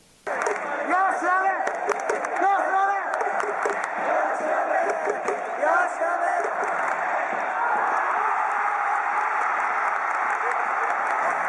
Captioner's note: crowd cheering; crowd chanting